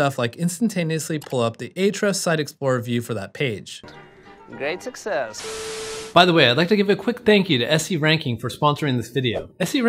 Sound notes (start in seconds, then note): 3.8 bright music; 5.4 graphic buzzes